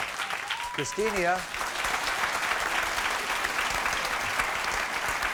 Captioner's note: audience applauds